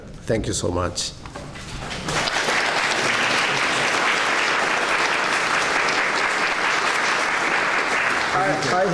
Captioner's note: clapping